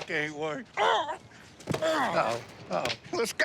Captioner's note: grunt